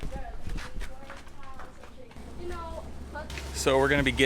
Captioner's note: light conversation in the background